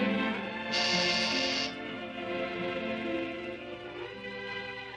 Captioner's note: soft orchestral music continues; doorbell buzzes